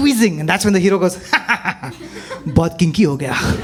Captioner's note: Tharki, nervous laughter